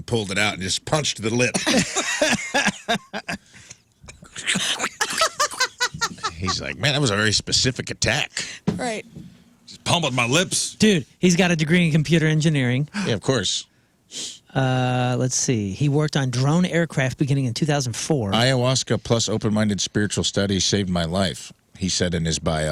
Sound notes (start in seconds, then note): 3.4 laughing